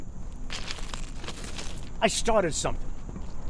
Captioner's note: footsteps crunching